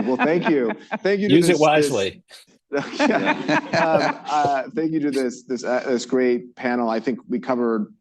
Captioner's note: laughter; laughter